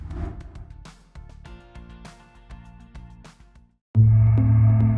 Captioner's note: transition whooshes; soft music